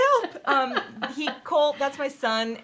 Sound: both laughing; laughing

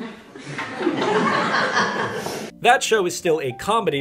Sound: audience laughter

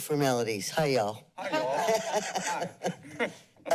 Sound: laughter

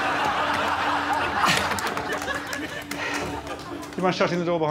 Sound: laughter

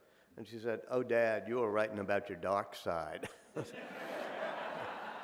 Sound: chuckles; audience laughing

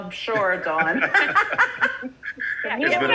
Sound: participants laugh

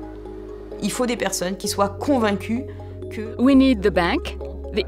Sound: speaking french

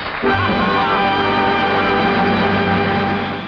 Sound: audience applause

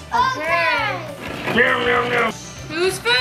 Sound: car noises

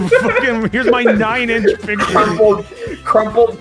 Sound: laughter

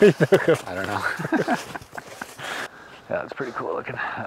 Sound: laughing

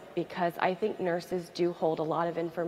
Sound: none

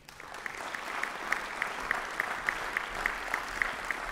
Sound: audience applauds

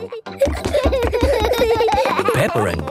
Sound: both giggling

